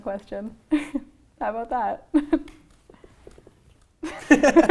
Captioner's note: laughs; laughing